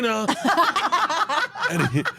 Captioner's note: laugh